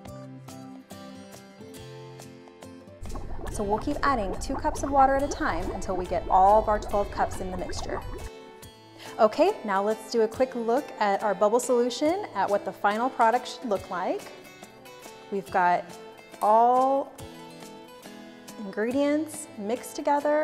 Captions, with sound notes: (bubbling) So we'll keep adding two cups of water at a time until we get all of our 12 cups in the mixture. Okay, now let's do a quick look at our bubble solution, what the final product should look like. We've got all ingredients mixed together with the hot water